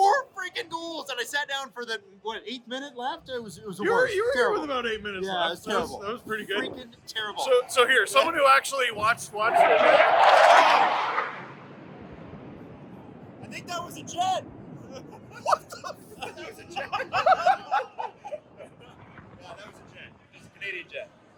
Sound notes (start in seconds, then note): 11.3 fighter jet noise; 19.5 laughter